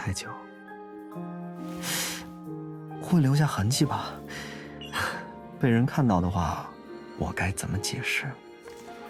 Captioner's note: hisses